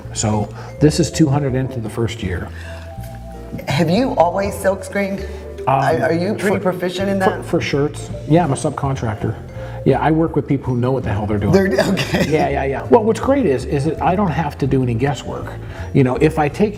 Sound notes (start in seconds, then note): 11.6 laughs